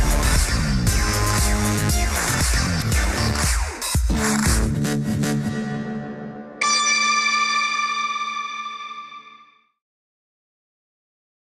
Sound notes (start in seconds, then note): 4.7 music fades; 6.6 sustained high tone